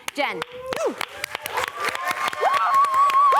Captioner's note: cheering